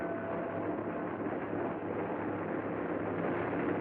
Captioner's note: aircraft Droning Overhead